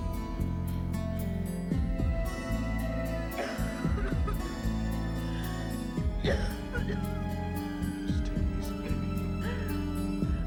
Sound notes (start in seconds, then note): 3.3 dyna continues coughing